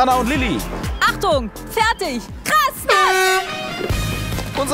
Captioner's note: Startsignal